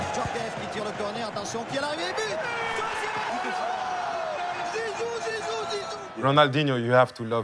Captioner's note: commentator speaking french